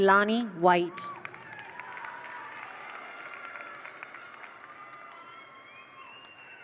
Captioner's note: attendees cheer; attendees applaud